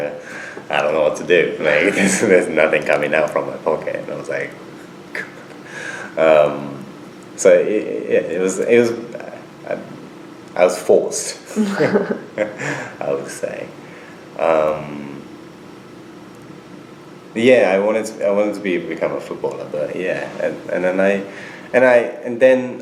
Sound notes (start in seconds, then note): 11.5 both laugh